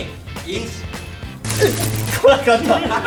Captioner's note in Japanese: 電流の効果音